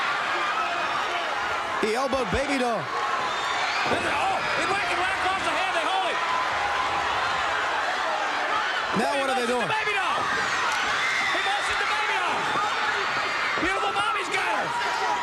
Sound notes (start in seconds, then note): 9.3 crowd cheering